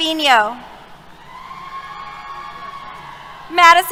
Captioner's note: cheers